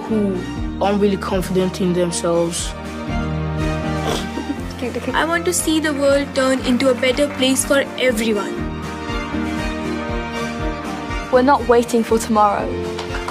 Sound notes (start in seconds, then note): 2.8 upbeat music; 4.0 laughs; 8.9 upbeat music; 13.1 upbeat music